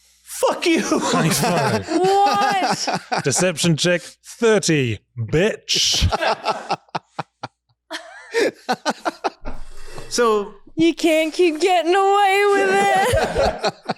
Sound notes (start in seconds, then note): 5.8 laughter